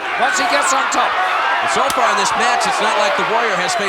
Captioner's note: audience cheering